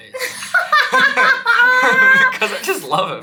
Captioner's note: laughing heartily